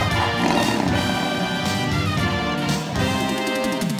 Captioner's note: tiger roaring